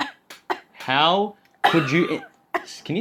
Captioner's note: coughs; coughs again